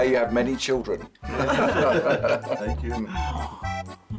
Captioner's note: all laugh